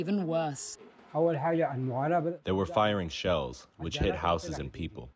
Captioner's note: through translator